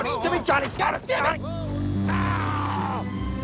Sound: electricity buzzing

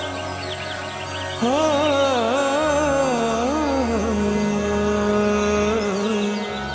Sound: humming

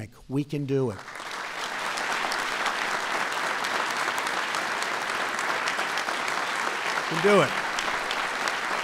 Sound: applause

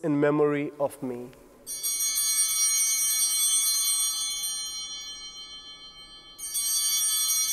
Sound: chimes ringing

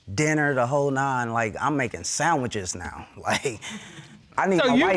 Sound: chuckles

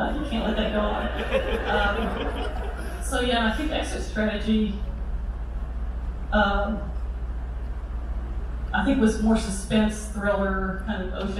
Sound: crowd laughter

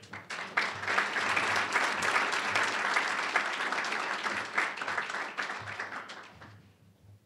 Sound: applause

